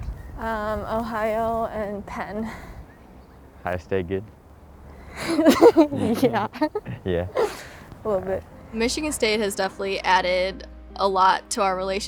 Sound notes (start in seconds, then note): 5.1 laughs